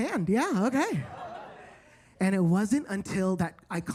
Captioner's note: attendees laughing